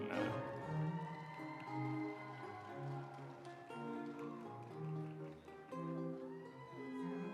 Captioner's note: audience cheering; instrumental music